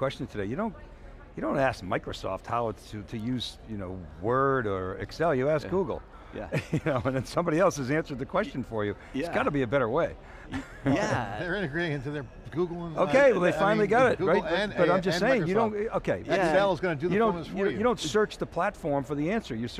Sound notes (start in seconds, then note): 6.4 laughing